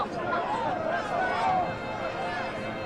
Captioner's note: crowd cheering